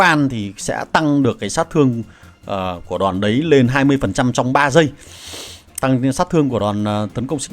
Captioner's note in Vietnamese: khịt mũi